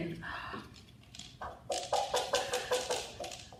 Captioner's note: clucks